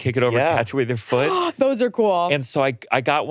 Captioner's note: gasps